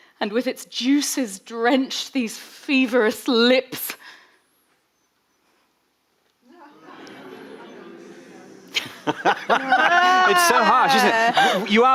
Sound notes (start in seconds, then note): 6.5 audience booing; 9.6 laughing